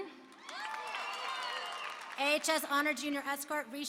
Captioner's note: applause and cheering